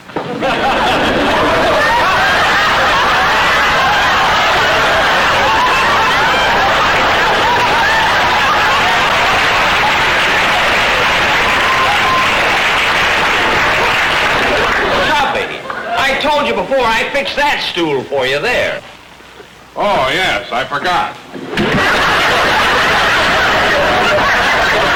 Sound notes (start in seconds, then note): 0.2 audience laughter; 8.6 audience applause; 21.5 audience laughter